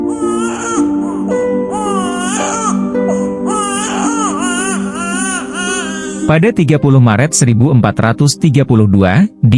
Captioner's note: baby crying